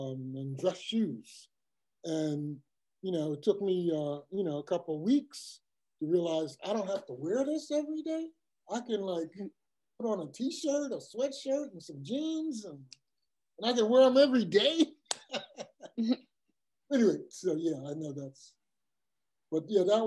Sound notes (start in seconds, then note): 15.0 laugh